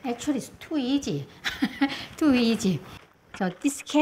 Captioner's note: laughs